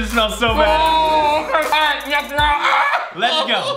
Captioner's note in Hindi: चिल्लाना